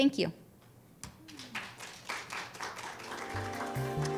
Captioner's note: audience applauds; enlightening music